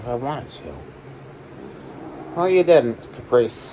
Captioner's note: growls